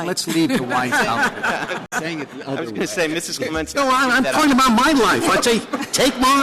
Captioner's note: laughter